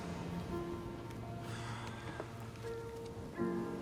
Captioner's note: sighs